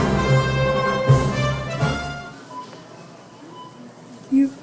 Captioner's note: grocery store ambient noise